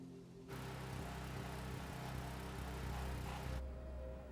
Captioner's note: machine humming